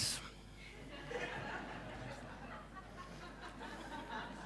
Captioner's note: laughing